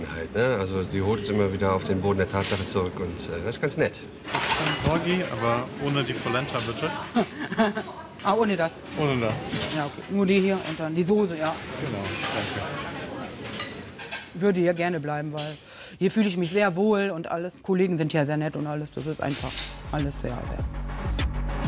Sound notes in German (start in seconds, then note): 7.0 lacht